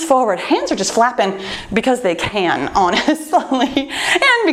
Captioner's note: laughs